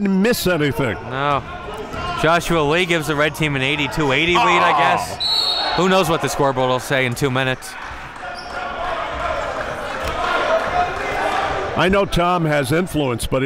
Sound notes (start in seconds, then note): 5.1 whistle blows; 9.6 cheering and yelling